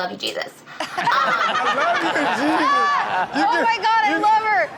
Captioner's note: Chanel laughs